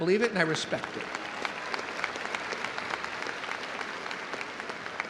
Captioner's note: audience applauding